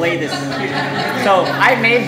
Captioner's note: audience laughing